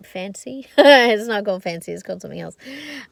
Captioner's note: laughs